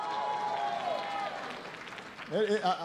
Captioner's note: applause